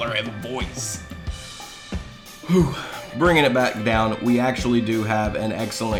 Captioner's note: deep breath